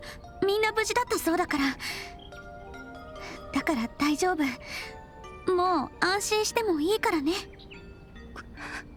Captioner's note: sob